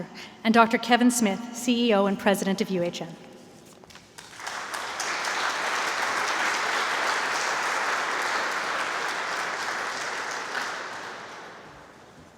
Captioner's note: applause